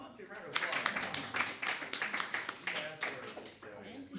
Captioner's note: audience applause